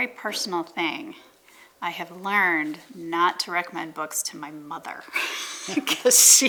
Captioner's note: chuckles